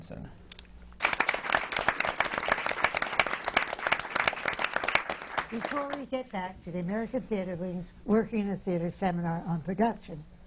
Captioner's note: applause